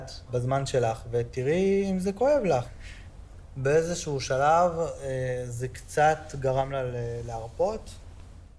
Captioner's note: Hebrew